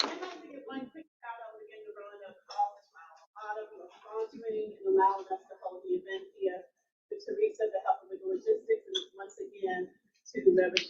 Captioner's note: audience clapping; audience speaking